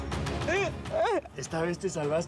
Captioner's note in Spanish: llanto